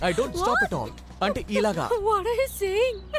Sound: giggles

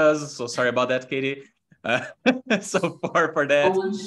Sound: chuckles

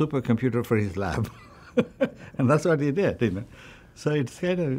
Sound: laughs

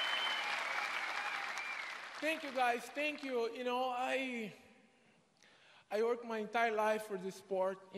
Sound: applause

